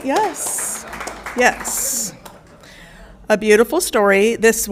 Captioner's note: audience applauding